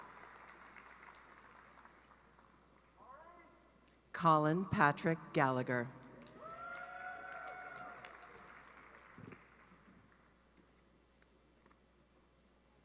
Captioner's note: cheering and applause